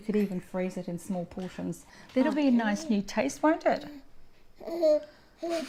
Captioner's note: baby noises and Mum laughs